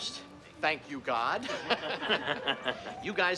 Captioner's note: laughing